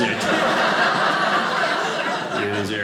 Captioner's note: audience laughing